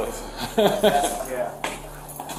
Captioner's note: officer laughs